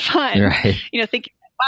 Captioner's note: laughter